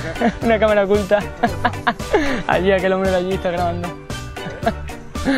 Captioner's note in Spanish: Risas